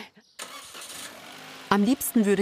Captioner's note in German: Motor startet